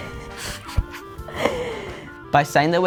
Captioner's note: laughs